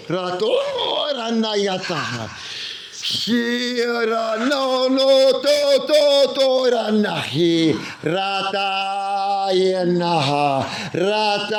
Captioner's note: non-english speech